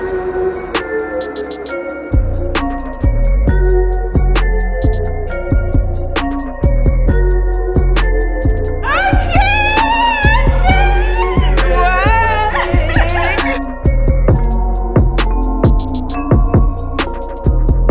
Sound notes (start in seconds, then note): 9.3 shouting; 13.8 upbeat music